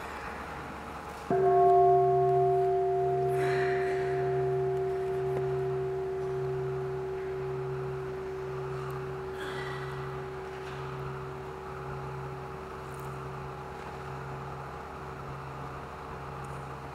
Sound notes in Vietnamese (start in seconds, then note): 1.3 chuông